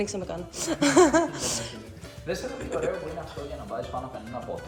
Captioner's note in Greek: γέλια